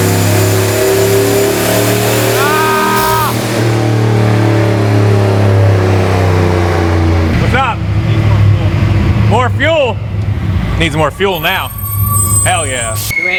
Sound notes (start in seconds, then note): 2.3 exclaims loudly